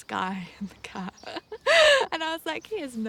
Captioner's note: laughs